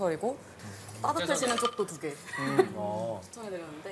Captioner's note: bubbling